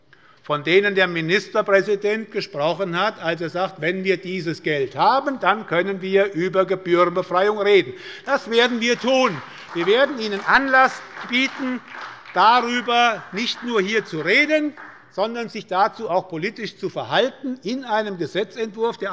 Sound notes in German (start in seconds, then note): 8.2 Beifall bei Abgeordneten der SPD